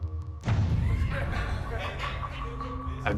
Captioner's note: inmates laughing